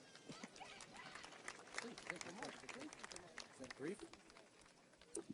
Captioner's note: audience applauds